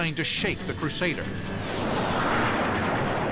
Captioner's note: jet engine noises